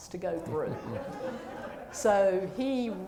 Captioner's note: laughter